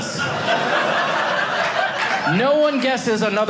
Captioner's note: audience laughing